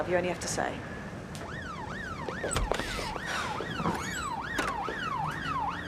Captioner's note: car alarm sounding